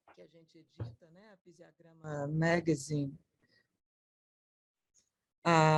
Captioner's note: speaking in foreign language